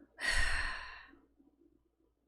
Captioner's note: deep sigh